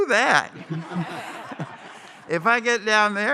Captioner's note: laughter